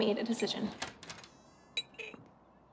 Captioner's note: door opening